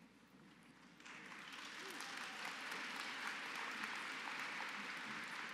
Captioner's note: applause